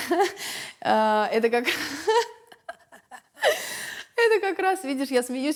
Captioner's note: laughs; laughs